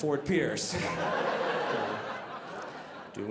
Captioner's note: audience laughing